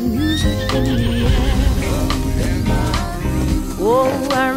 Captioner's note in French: stridulations d'insectes; hennissement